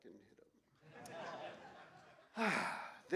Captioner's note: laughter